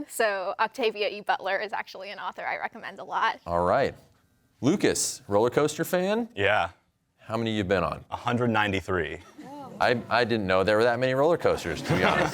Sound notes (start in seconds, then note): 8.6 audience murmuring; 11.5 laughter